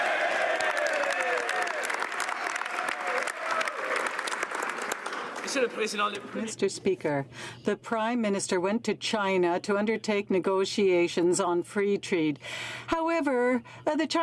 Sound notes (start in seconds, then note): 2.7 some Applause